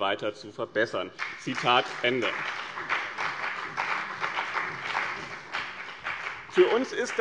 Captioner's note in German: Beifall bei dem BÜNDNIS 90/DIE GRÜNEN und der CDU